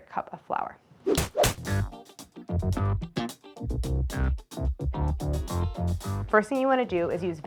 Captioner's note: air whips; upbeat music